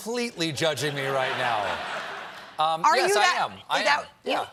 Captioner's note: laughter